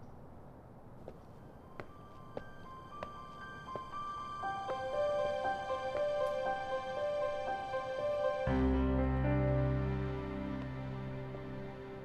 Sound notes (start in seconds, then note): 0.9 footsteps; 0.9 hopeful orchestral music